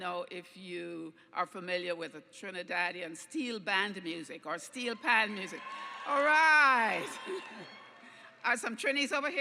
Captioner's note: cheers